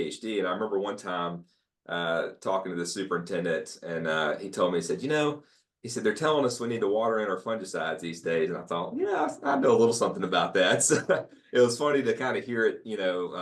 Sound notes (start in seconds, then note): 10.6 laugh